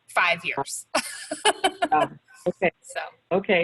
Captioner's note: laughs